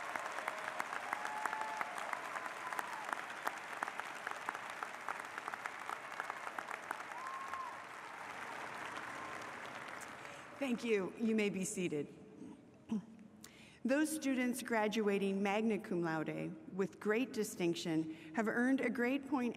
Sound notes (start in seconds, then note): 0.0 applause